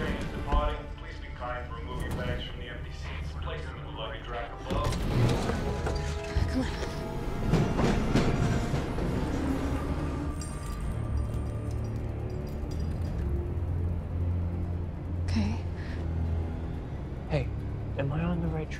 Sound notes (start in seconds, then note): 6.9 train clattering; 10.1 suspenseful music playing